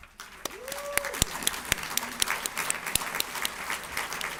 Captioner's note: audience applauds